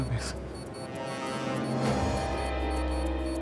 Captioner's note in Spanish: Pitido